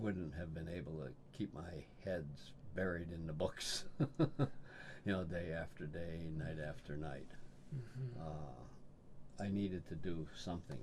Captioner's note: laughs